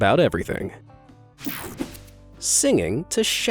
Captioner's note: graphic whooshing